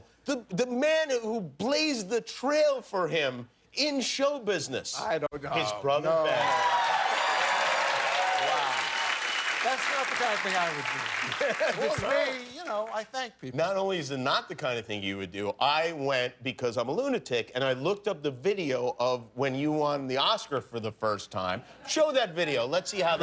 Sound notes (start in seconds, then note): 6.3 cheers and applause